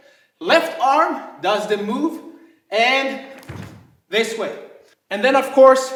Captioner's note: snapping